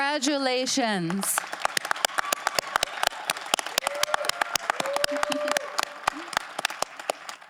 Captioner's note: audience applauding; audience cheering